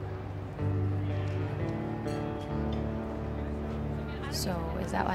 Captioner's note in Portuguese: conversa da multidão; música de guitarra lenta